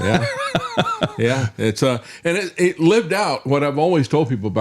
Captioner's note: laughing